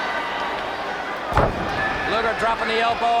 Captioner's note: body thudding